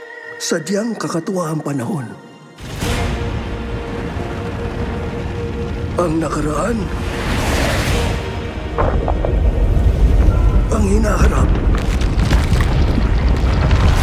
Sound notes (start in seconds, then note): 2.9 majestic music playing; 8.8 rumble echoes; 11.7 ice cracking